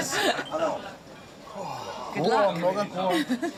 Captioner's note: speaking Japanese; chuckles; chef speaking Japanese; chuckles